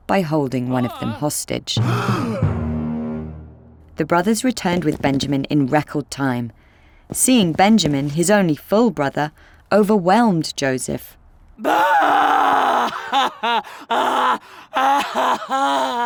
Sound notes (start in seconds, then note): 1.7 dramatic music; 1.8 brothers gasp